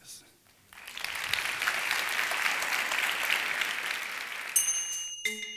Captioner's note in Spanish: Aplausos